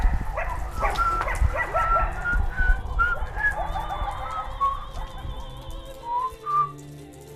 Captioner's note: dog growling; whistling